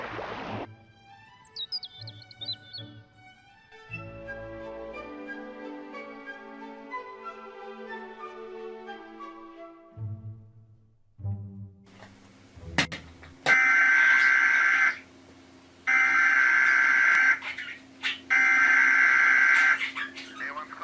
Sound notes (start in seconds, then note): 1.2 light classical music; 2.9 birds chirping; 5.3 light classical music; 13.4 TV buzzing; 16.2 TV buzzing